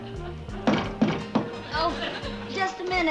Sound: knocking

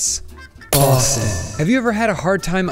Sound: glass Shattering; echoing

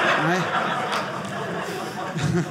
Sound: audience laughing

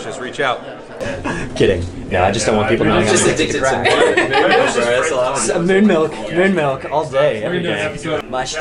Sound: elevator banter

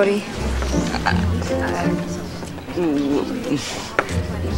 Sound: Cody mutters

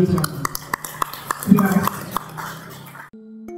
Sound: sound of applause

